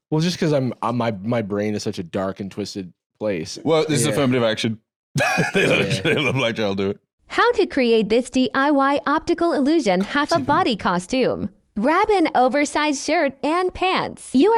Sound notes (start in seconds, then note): 5.2 laughs